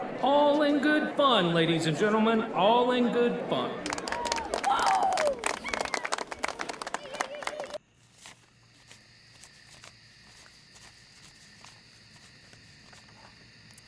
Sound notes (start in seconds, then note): 3.4 audience applauding; 9.7 crickets chirping